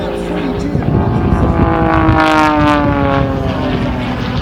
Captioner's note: engine noise